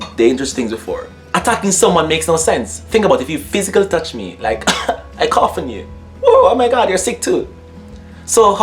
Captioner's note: coughs